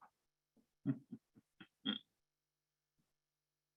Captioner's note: chuckling